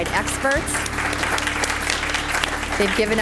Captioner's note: applause